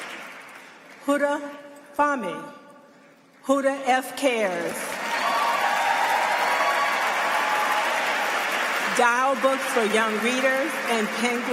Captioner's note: applause